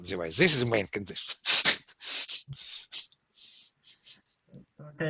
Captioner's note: laughs